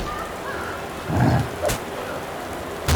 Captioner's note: grunt